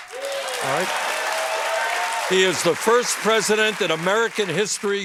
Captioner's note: applause